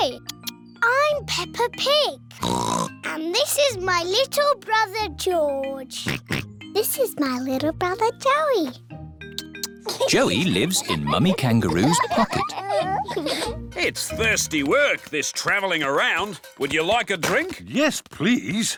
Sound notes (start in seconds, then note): 14.1 all laugh